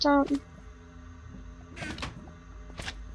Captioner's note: chest slams shut